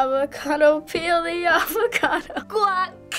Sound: laughing

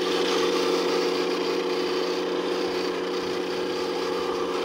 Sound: engine revving

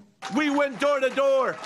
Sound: cheers

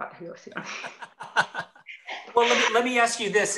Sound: laughs

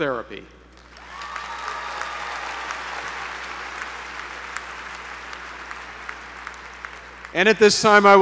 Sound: applause

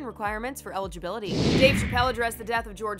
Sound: air whooshes

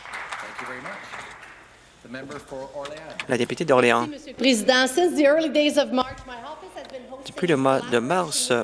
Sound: some Applause

